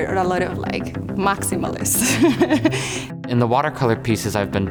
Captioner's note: laughs